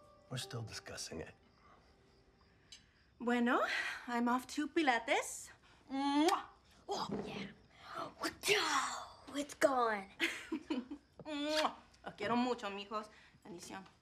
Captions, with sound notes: We're still discussing it. Bueno. I'm off to Pilates. -Mwah! -Oh yeah! Wa-chow! It's gone. [giggles, smooches] [speaking Spanish]